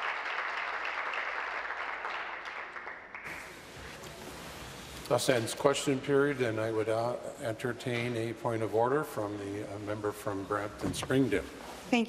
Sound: applause

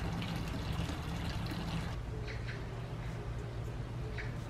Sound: the sound of water and birds singing

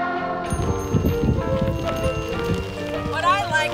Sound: bike bell dings

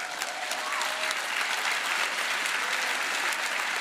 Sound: applause

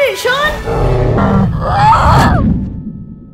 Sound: dinosaur sound

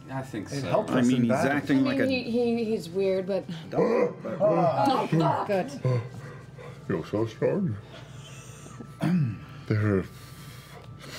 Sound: gasps

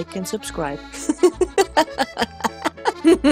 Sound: woman laughing

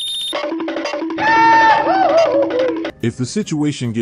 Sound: Goofy Running Sound Effect + Goofy Yell

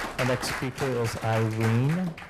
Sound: cheers and applause

